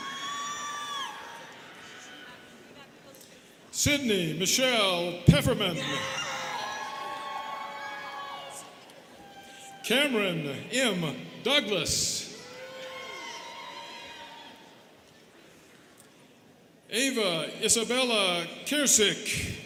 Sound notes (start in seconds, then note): 0.0 students cheering; 5.8 students cheering; 12.3 students cheering